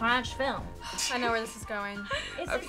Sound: laughs

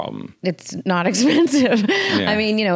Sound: laughs

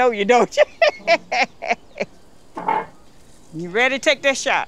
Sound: laughs

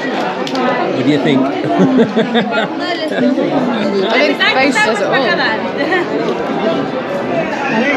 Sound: laughter

